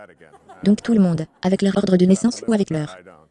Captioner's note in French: rire de l'audience